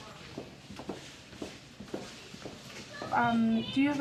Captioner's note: none